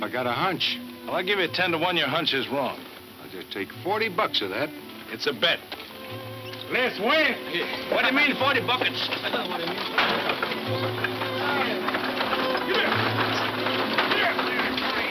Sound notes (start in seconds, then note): 6.2 muffled shouting; 8.6 laughing; 9.6 muffled shouting; 9.6 wheels clanking